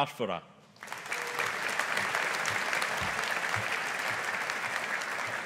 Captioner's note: audience applauding